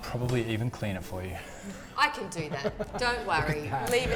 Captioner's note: laughing